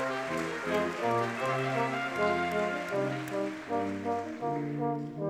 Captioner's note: audience clapping